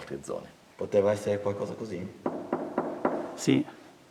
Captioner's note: knock, knock, knock